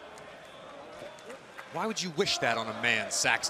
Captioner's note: crowd cheering